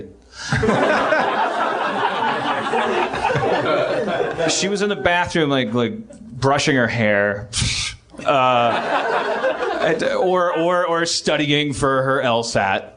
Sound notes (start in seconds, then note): 3.0 laughs; 7.9 scoff; 8.1 laughs